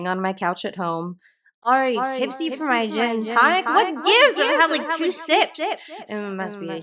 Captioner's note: slurring